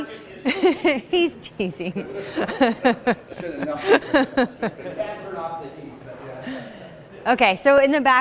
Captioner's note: laughs